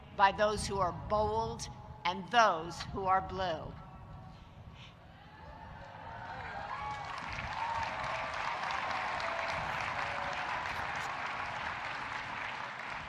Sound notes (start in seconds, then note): 5.4 audience cheering and applauding